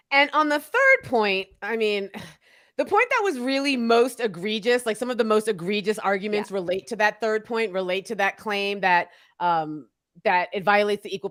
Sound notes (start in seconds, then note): none